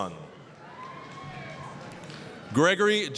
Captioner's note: applause, cheering